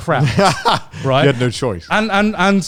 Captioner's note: laughing